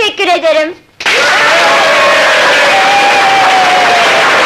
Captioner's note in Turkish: Alkışlar, bravo sesleri, tezahürat